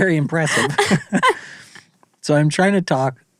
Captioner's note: laughing